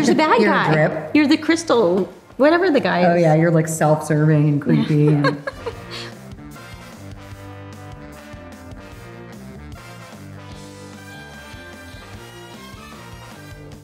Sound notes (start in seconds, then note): 4.6 laughing; 8.4 upbeat music